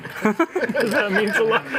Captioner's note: laughter